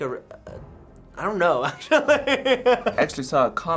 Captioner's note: laughing